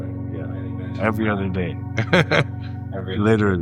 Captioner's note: laughs